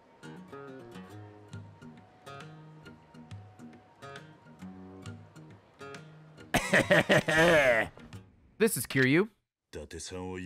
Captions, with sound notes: (evil laugh) This is Kiryu.